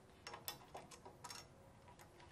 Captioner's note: clattering